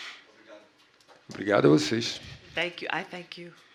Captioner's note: speaking portuguese